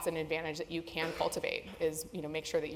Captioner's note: cough